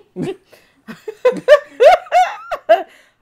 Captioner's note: laughing